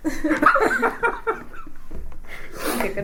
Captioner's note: laughs